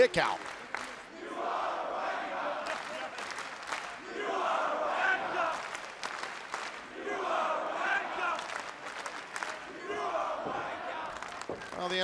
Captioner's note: fans chanting